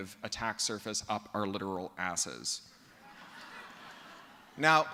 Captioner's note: laughter